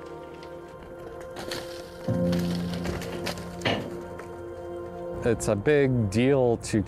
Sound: bighorn sheep running

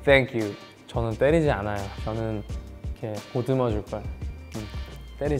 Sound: speaking in Korean

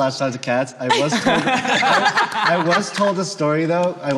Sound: all laughing

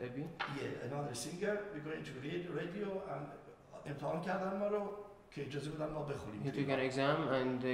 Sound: speaking in farsi

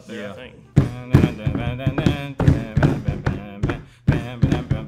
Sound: hums "Yankee Doodle"

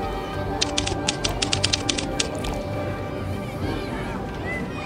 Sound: typewriter tapping

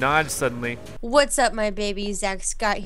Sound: voiceover

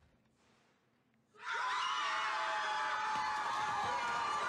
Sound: students screaming

